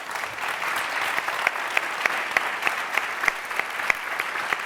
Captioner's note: applause